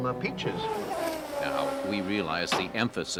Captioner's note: car zooms